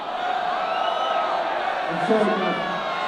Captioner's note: audience cheers